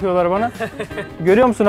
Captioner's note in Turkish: Gülüşmeler